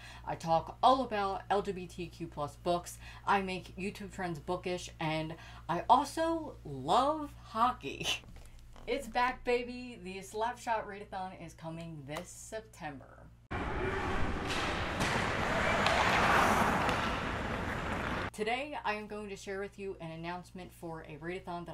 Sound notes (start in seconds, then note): 13.6 hockey noises and skating